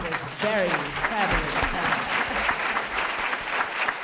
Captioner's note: applause